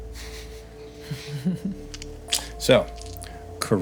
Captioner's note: laughing